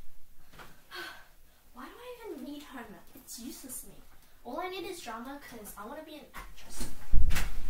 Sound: sigh

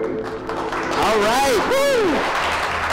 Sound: audience clapping

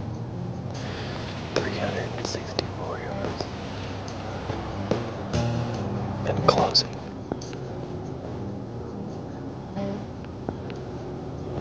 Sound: whispering

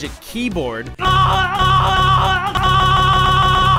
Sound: screams repeatedly; screaming speeds up

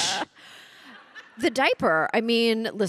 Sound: audience laughing

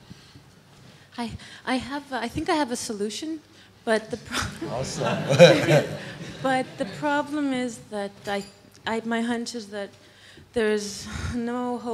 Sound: laughter from audience

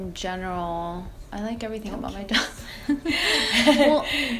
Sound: laughter

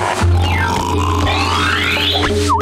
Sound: snoring

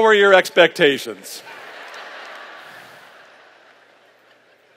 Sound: laughter

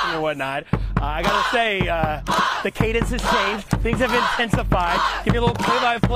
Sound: crowd chanting

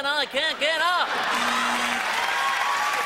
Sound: audience laughs; buzzer buzzes; audience applauds

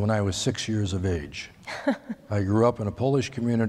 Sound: laughter

